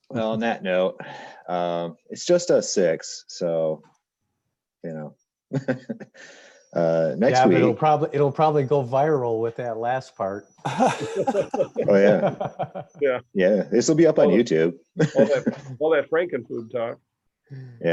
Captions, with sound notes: - Well, on that note, it's just a six. So, (laughs) next week. - It'll probably go viral with that last part. (all laughs) - Oh, yeah. - Yeah. - Yeah. This will be up on YouTube. - Well, that Franken food talk.